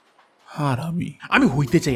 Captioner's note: swears with pure disgust